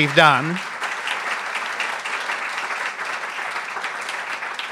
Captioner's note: applause